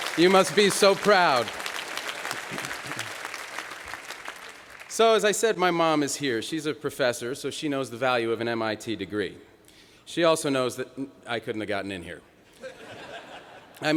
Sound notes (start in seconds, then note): 0.0 applause